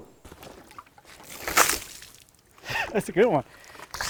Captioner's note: water sloshing; laughs